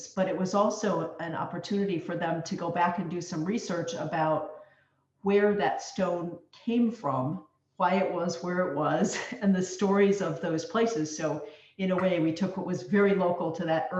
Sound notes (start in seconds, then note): 9.0 chuckles